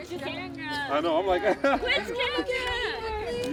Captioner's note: laughs